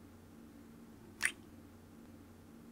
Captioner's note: kiss